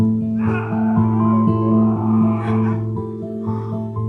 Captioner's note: Edward screams